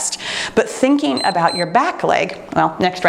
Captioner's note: timer beeps